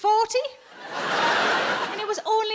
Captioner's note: audience laughs